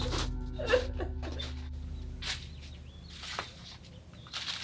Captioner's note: crying